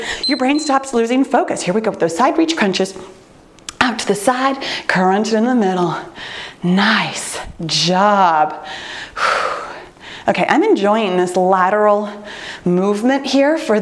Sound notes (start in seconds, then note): 0.1 timer beeps; 8.6 breathes deeply